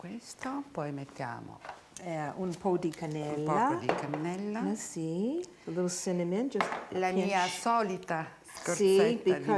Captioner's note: speaking Italian